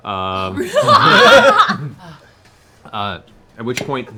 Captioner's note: laughter